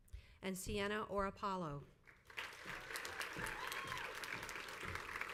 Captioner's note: crowd applauds